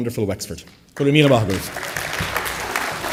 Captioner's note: applause